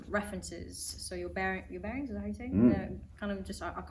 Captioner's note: hums in agreement